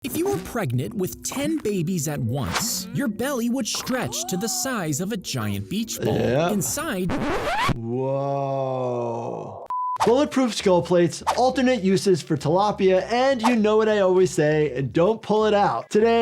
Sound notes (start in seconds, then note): 6.4 record scratches; 9.7 screen beeps